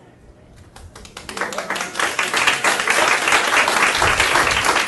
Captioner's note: audience applauding